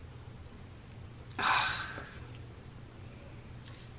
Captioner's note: sighs